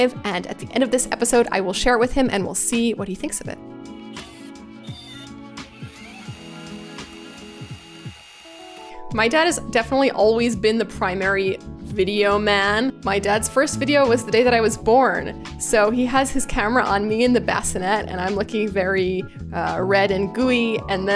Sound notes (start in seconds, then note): 5.7 spinning reels